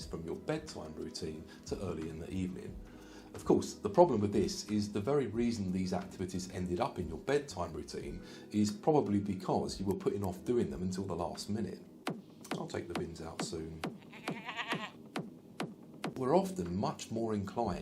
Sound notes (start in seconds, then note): 13.9 sound of goat bleeting